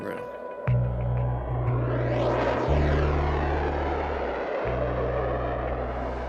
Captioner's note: jet engines roaring